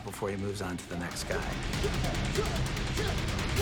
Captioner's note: both grunting